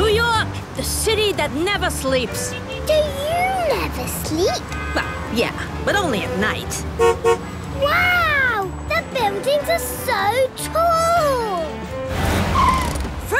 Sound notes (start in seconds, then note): 5.5 honks